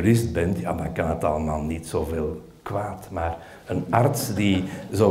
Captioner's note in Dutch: gelach